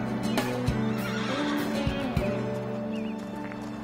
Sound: horse neighs

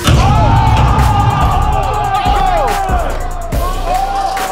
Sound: crowd cheering

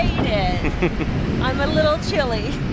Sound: chuckling

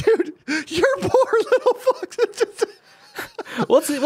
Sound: laughs

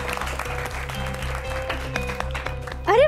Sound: applause

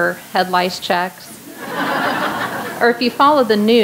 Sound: laughter

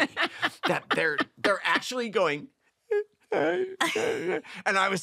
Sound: weeping

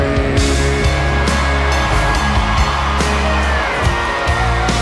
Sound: audience cheering

